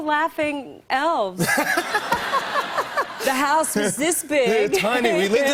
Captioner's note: laughter